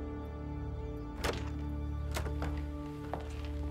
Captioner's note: sound of door opening